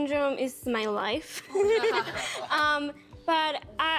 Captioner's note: all laughing